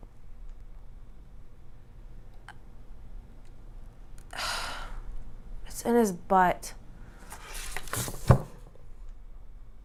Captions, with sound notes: - Uhh... (sighs) It's in his butt.